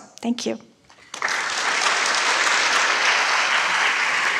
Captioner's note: applauding